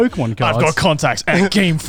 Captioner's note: laughing